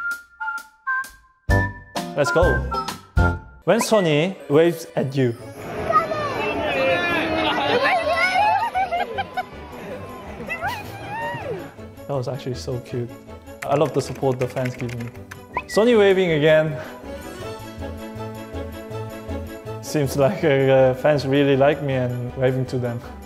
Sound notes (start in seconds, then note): 7.4 cheering; 17.0 whimsical music